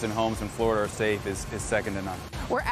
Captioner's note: none